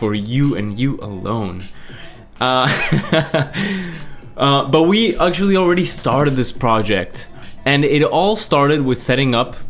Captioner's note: laughs